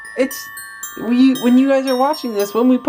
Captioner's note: speaking